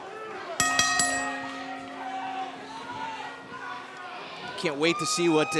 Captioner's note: bell ringing